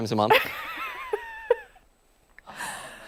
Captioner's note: laughter